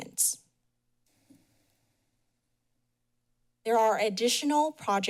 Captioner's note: pause